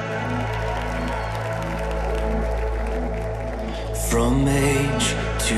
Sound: congregation cheering

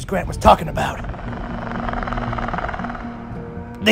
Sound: raptor Sounds

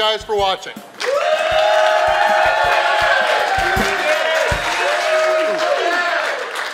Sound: crowd applauding; crowd cheering

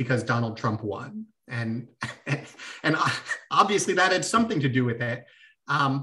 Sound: laughter

